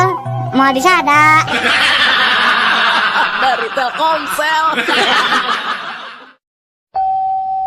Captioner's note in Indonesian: tertawa